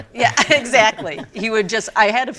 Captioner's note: laughs